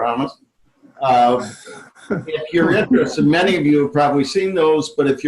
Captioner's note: laughing